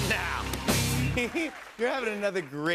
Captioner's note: laughs